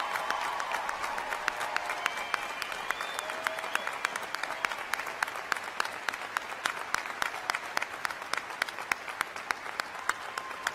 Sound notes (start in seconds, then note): 3.6 cheers and applause